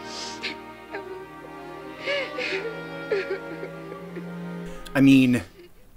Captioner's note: more crying